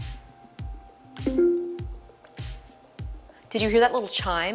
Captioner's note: HomePod chimes